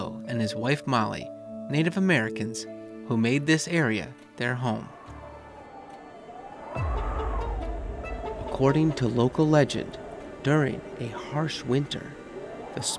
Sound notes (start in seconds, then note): 4.6 wind whistling; 5.2 light music